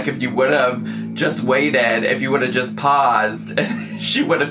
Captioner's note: bassy music; laughing